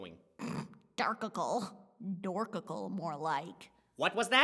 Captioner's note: snorts